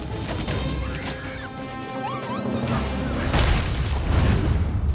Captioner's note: driver screams; logo slams